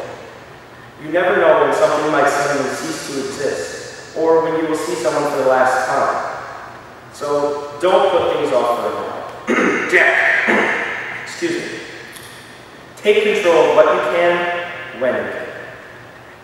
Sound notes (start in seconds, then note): 9.4 cough